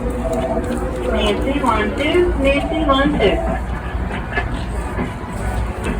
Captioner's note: PA system